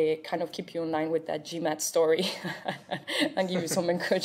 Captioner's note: laughs